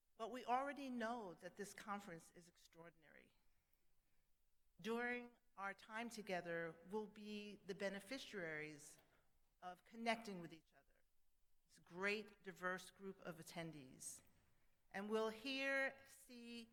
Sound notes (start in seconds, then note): none